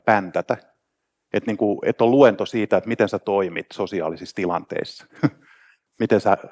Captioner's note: laughs